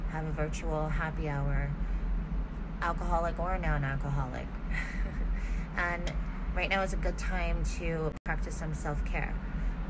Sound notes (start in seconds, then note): 4.7 giggles